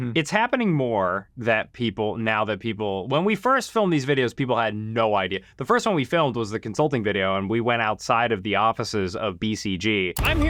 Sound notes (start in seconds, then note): none